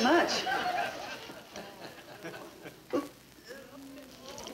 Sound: audience laughing

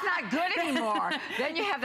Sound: laughter

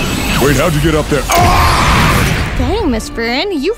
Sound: screams

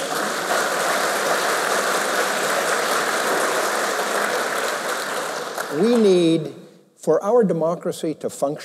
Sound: applause

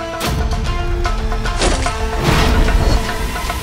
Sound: arrow whooshes

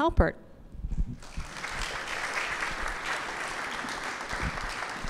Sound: audience applauding

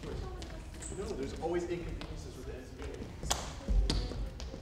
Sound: group chatters

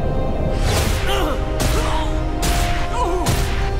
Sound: grunting, groaning

